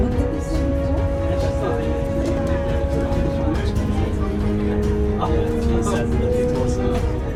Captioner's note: murmurs in the train